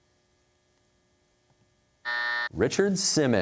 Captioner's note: buzzer